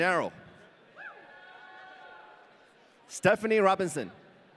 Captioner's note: audience cheering